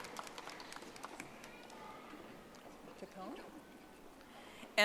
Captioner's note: audience applauding